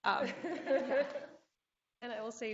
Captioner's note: laughter